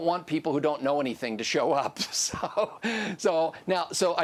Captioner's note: laughs